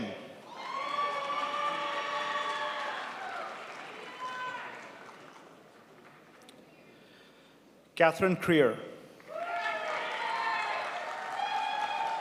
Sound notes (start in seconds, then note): 0.4 crowd applauds; 9.2 crowd applauds